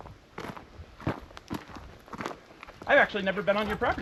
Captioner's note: footsteps crunching